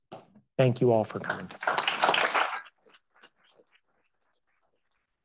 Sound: audience applauds

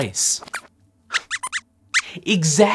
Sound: squeaks

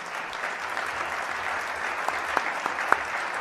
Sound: applause

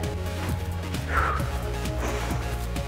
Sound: exhale

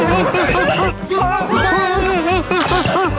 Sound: surprised

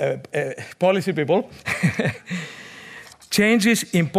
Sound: chuckles

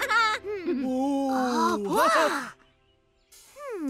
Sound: chuckles; exclaims

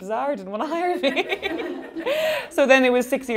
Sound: laughing

